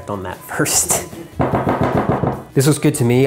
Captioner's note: taps on bowl